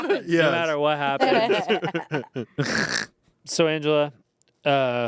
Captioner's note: everyone laughs